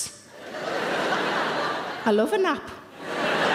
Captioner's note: audience laughing